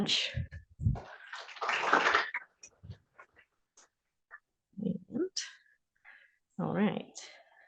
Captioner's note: applause